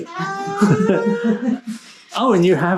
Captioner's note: both chuckle